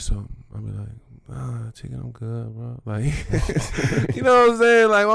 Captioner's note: laughs